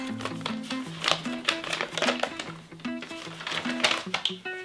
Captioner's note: paper crackles